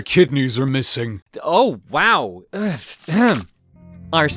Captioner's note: clears throat